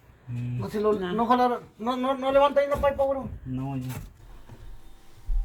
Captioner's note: Spanish